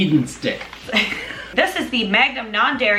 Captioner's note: laughing